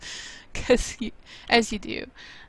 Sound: laughs

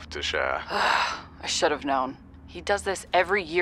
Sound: groans

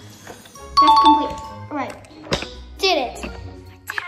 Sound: bell rings

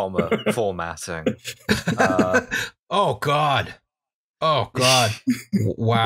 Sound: laughter

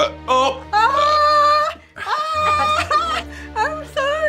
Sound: exclaims

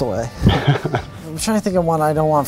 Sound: Oliver laughs

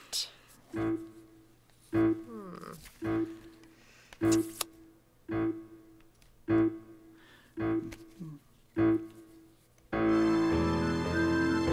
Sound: beeping

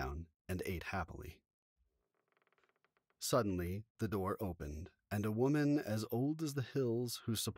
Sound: a door creaks slightly

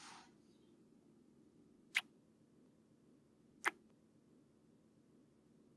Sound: kiss

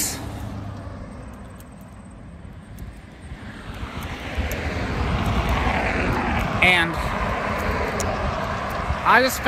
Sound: Traffic on Paulding Road

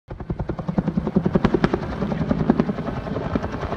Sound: blades whirring

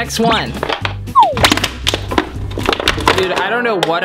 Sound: bottle crinkling

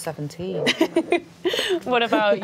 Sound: laughs

